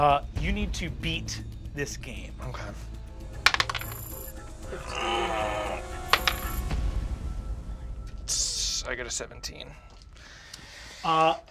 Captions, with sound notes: - You need to beat this game. - Okay. (moans) (die clattering) I got a 17.